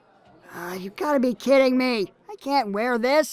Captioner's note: sighs